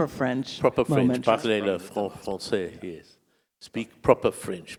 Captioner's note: speaking in French